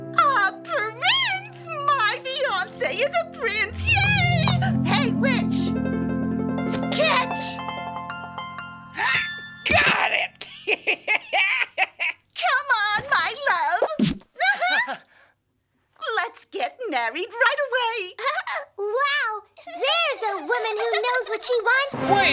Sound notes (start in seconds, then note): 10.4 witch laughs; 14.4 laughs